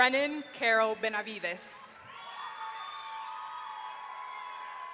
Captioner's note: audience cheering